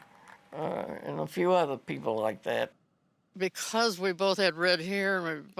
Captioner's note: none